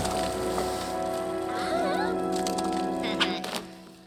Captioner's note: girls gasp